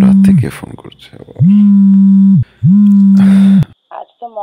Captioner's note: phone vibrates